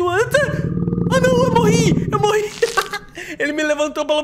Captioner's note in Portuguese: risos